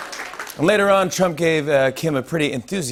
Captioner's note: laughter, applause; normal voice